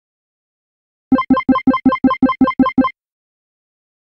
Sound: sound of arcade beep

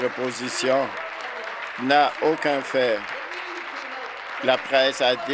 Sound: applause

